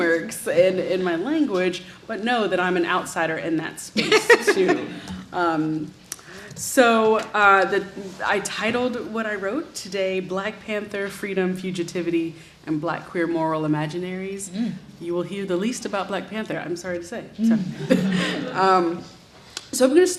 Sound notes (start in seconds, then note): 4.0 audience laughs; 17.7 audience laughs